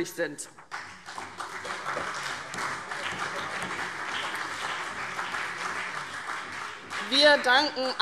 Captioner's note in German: Beifall CDU und BÜNDNIS 90/DIE GRÜNEN